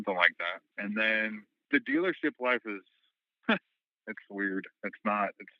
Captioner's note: scoff